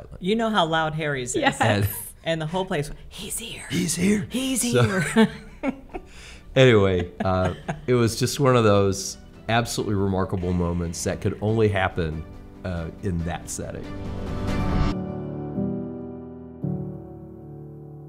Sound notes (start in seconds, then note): 6.7 laughs; 14.6 gentle music